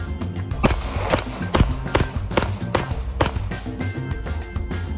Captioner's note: gadget beeping; gunfire popping; upbeat music